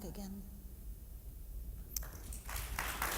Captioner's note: applause